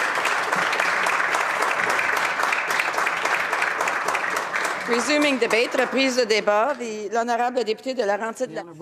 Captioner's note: applause